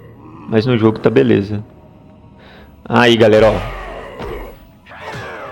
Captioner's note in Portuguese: gemido